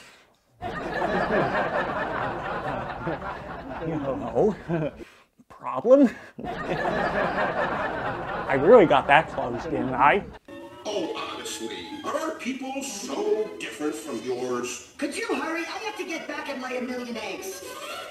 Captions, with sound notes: (audience laughing) Hello? Problem? I really got that close, didn't I? Oh, honestly, are people so different than yours? Could you hurry, I gotta get back and lay a million eggs!